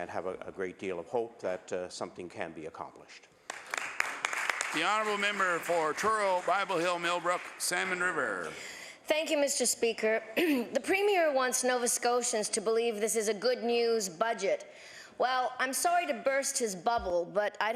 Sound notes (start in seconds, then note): 5.7 applause